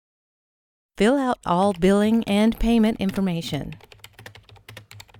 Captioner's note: typing